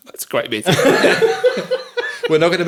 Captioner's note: all laughing